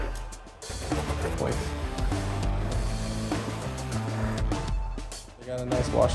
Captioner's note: drilling